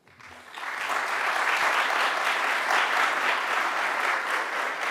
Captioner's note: audience applauds